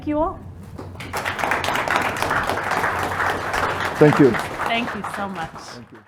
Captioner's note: applause